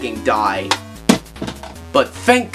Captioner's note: both cartridges hit floor